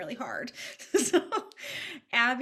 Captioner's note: chuckles